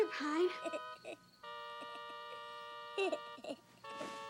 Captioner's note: Warren giggling